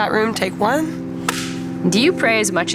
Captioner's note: clapboard clacks